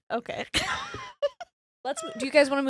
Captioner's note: laughing